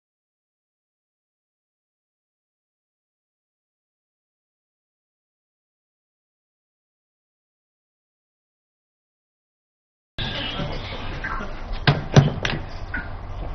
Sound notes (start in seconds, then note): 11.8 mr.bean close door